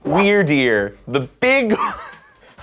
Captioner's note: laughing